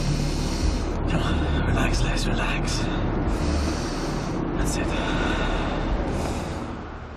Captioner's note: breaths out